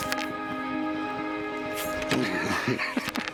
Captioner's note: laughs